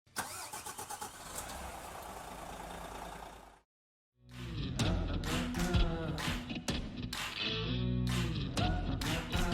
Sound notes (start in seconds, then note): 0.1 coach engine starting; 4.4 thumping music